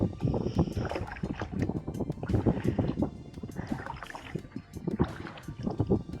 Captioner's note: paddling, wind & soft music